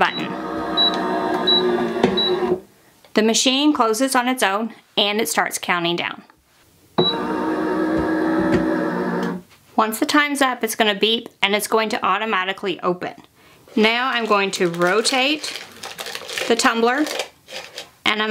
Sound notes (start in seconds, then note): 0.0 press rumbling; 1.3 press beeping; 7.0 press rumbling